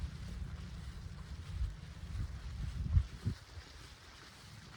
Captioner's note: footsteps